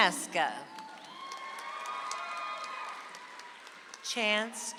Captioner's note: audience applauds